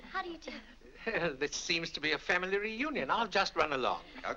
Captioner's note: chuckles